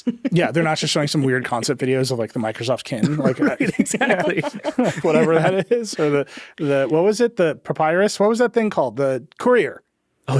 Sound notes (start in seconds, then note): 3.0 chuckling